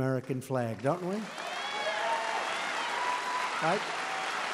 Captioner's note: applause